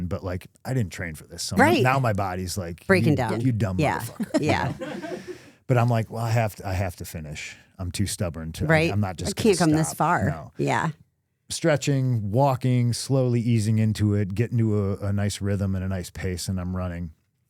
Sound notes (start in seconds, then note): 4.6 crew members laughing